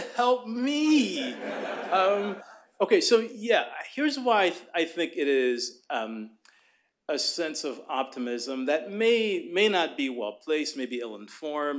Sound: laughter

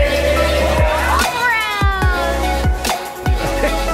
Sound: upbeat music; crowd cheers

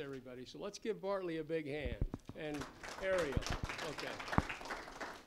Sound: applause

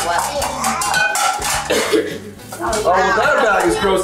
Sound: dishes clattering

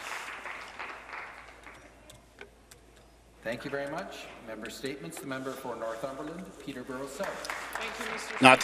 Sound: some Applause

